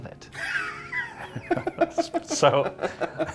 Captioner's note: both laughing